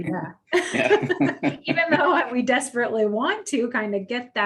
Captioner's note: laughs